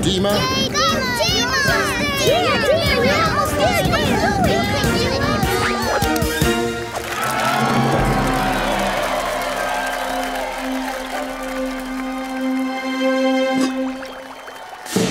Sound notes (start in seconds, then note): 0.7 cheering; 6.7 cheering